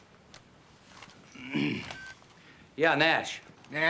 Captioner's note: clears throat